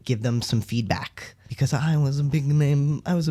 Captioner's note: obnoxious posh voice